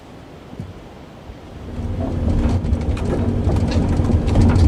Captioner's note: machine rumbling